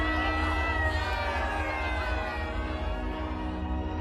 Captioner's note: yelling